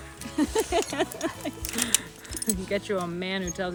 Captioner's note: laughs